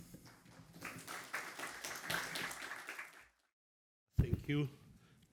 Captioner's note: audience applauds